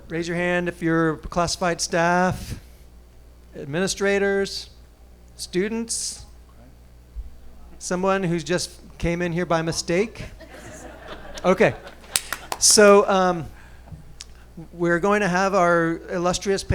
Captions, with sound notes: Raise your hand if you're classified staff, administrators, students, someone who's just came in here by mistake. (audience laughing) Okay, so we are going to have our illustrious panel